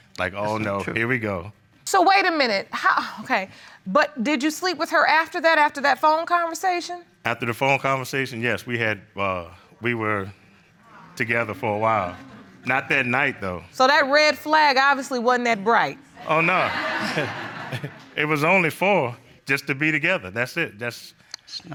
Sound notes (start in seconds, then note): 16.2 audience laughing